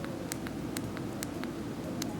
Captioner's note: click